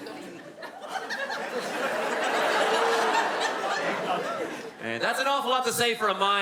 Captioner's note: words mixed with the audience laughte